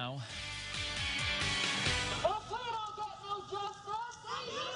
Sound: nats of protest

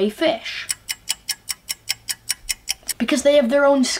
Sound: clock ticking

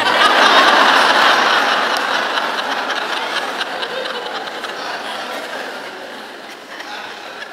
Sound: laughter

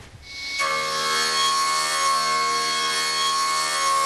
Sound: machine whirrs

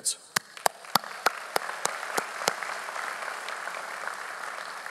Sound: audience applauds

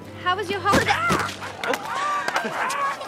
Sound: clucks; chuckles

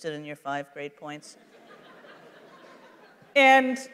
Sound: laughter

